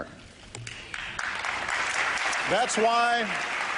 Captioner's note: applause